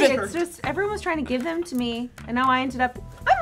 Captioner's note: none